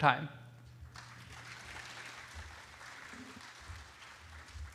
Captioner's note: applause